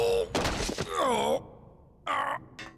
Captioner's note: pained groans; mechanical grunt